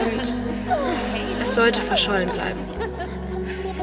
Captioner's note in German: flüstern und Gelächter